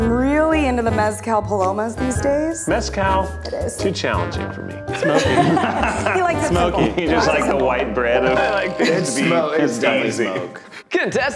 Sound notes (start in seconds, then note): 4.9 laughing